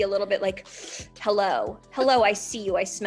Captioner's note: inhales sharply